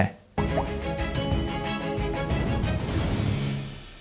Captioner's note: bell dinging